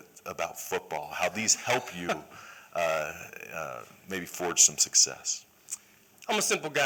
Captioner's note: laughter